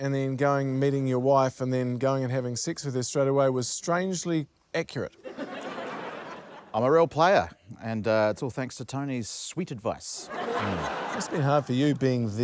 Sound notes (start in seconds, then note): 5.2 laughter; 10.2 laughter